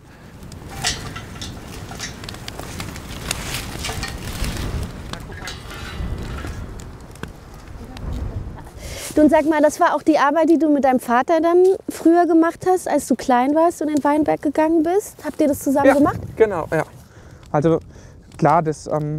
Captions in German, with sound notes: (Knistern) Das war auch die Arbeit, die du auch mit deinem Vater früher gemacht hast, als du klein warst und in den Weinberg gegangen bist? Ja, genau. Also, klar, das ...